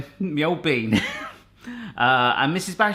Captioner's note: laughs